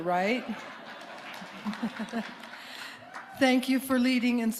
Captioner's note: audience applauding